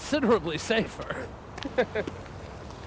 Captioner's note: chuckling